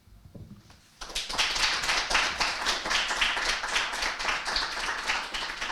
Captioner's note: audience applauding